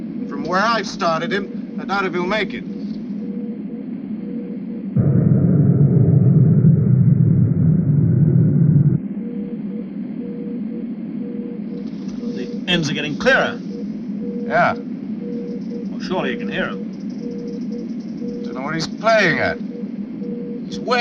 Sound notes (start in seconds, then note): 4.9 wind whirring